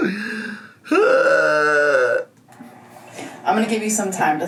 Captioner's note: sighs